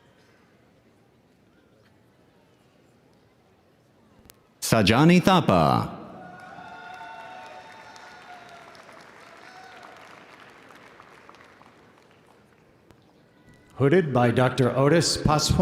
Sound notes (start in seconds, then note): 6.0 audience cheering; 6.2 audience applauding